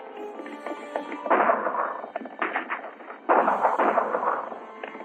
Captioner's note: gunshots and horses galloping